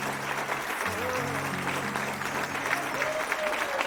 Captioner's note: man vocalizing